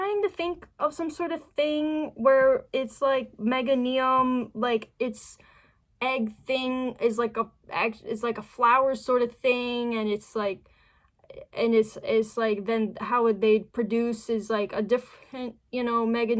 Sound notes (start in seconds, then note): 10.7 stammering